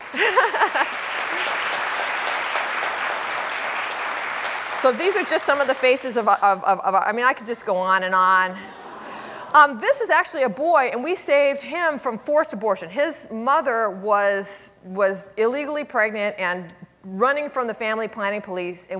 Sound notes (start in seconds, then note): 0.0 audience applauding; 0.1 laughs; 8.8 audience awing